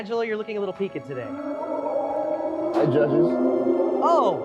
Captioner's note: howling